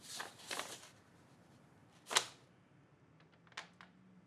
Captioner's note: paper rustling